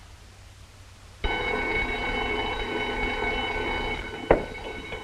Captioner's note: alarm ringing